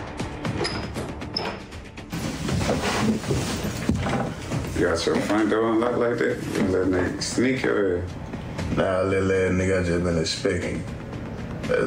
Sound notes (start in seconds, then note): 0.5 door creaking